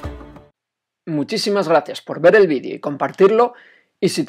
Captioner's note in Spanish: voz en off